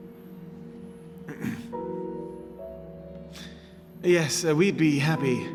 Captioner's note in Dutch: Peter schraapt keel